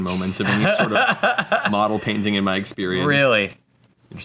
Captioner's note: laughs